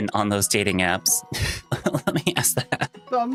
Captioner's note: laughing